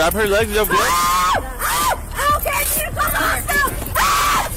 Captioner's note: suspect screaming